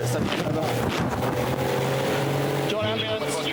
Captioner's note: lifeboat engine whirring